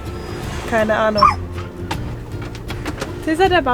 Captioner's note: Caesar is barking